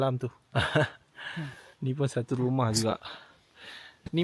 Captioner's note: laugh